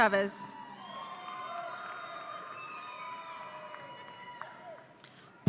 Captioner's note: audience applauding